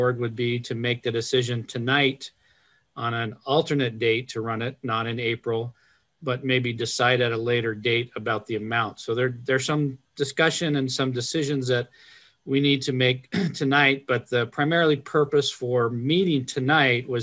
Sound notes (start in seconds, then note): 13.2 clears throat